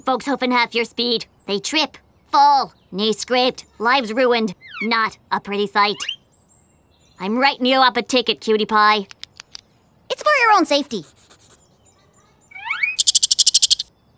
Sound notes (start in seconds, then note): 7.9 clicks pen; 12.4 chatters like a squirrel